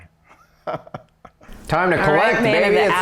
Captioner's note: all chuckle